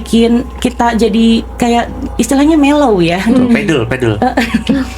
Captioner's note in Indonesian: tertawa